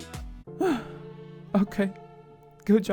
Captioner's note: sigh